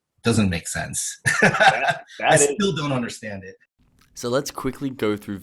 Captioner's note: laughs